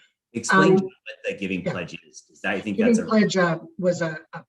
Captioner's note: indistinct conversation